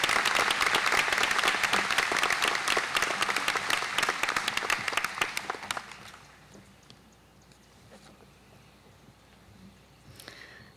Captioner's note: applause